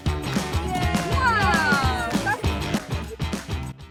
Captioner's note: people cheering